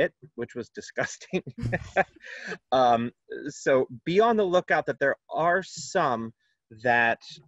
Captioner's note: laughter